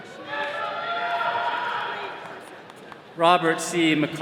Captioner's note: attendees cheering